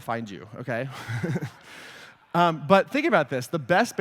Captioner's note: laughter